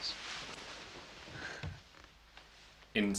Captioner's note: heavy breathing